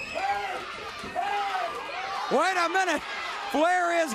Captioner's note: crowd cheering